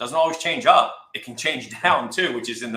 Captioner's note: laughs